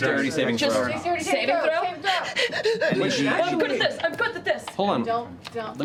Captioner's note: panicked breathing